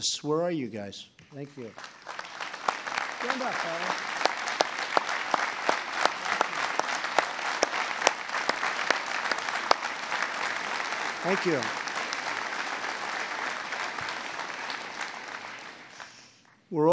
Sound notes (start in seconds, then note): 1.7 applause